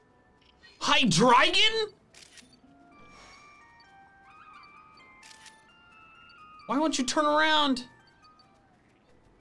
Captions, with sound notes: Hydreigon! (photo snapping) Why won't you turn around?